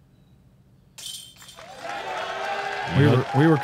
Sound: applause

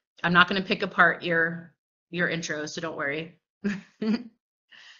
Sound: laughter

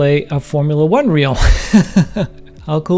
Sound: instructor laughing

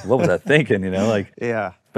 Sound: laughing

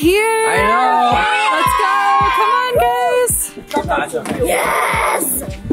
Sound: kids cheering

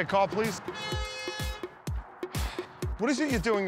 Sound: horn honking

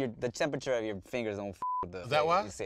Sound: beep

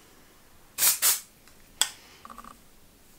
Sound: spraying

